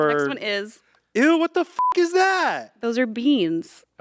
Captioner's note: beep